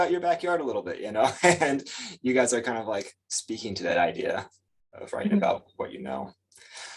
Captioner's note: chuckles